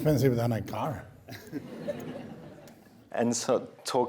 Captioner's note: laughing